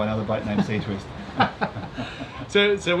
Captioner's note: laughing